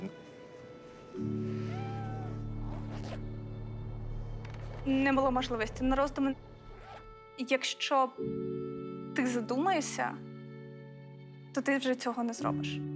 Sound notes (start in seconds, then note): 1.5 cat crying